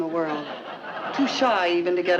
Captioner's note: audience chuckling